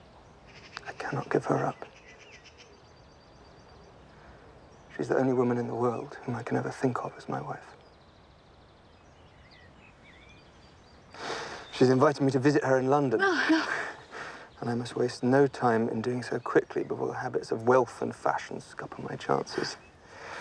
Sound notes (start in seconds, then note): 13.2 sighs